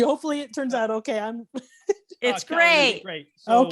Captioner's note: chuckling